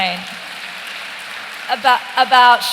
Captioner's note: applause